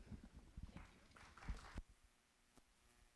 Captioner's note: applause